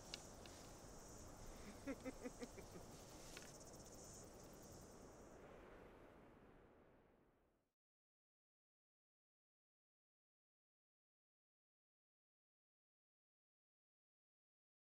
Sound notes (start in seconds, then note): 1.6 heavy chuckle